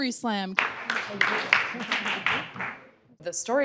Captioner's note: applause